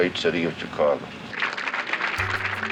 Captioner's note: crowd clapping